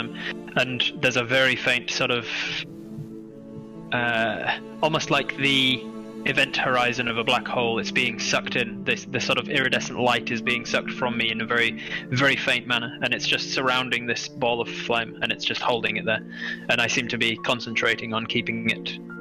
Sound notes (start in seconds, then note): none